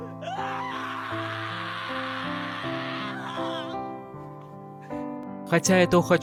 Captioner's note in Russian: крик